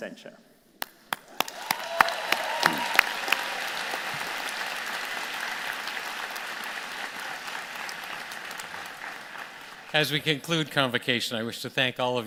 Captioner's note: applause